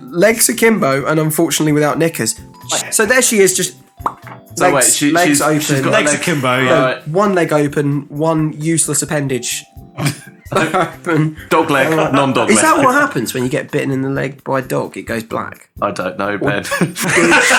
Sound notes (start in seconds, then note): 4.0 pop